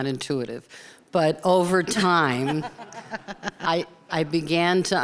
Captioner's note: people laughing